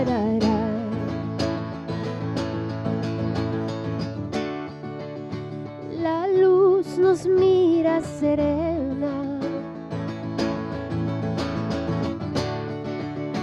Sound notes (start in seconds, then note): none